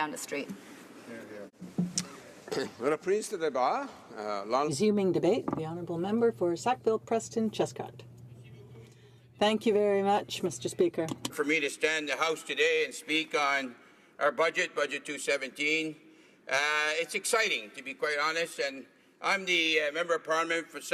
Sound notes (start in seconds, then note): 10.4 speaking French